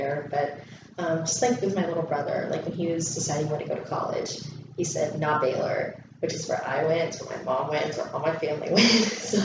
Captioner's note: laughs